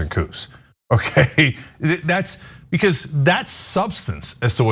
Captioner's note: laugh